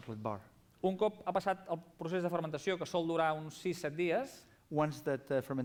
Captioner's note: non-english speech